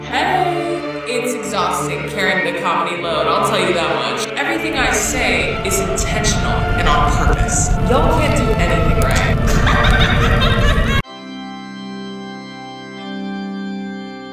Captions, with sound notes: - Hey. It's exhausting carrying the comedy load. I'll tell you that much. Everything I say is intentional and on purpose. Y'all can't do anything right. (laughing) (organ music)